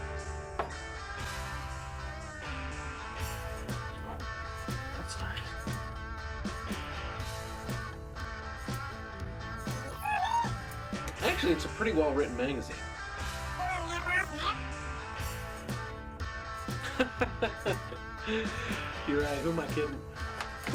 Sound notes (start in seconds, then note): 9.8 robot makes sounds; 13.6 robot makes sounds; 16.8 laughs